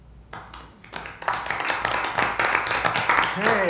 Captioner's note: awkward clapping